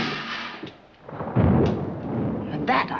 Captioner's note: steel clanging; thunder